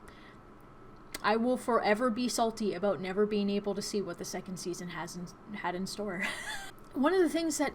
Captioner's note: chuckles